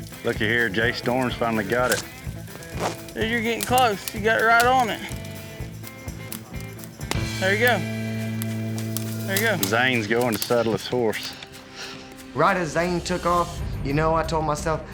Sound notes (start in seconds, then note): 5.3 fire crackling; 7.0 string breaks